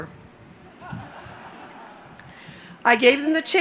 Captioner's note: laughter